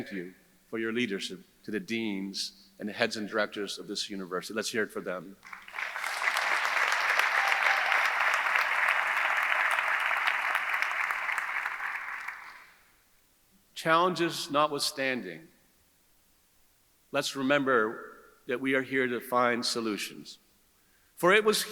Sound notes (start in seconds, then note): 5.4 audience applauding; 5.4 audience cheering